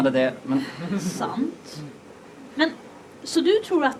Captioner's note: sighs